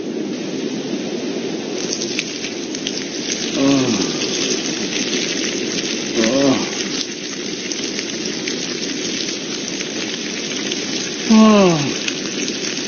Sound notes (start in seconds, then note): 3.3 peeing